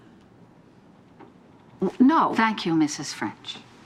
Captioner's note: stammers